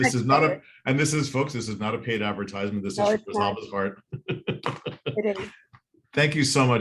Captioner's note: laughs